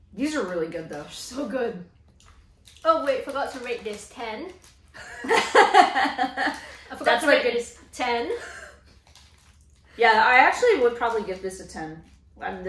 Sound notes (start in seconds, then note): 5.0 laughing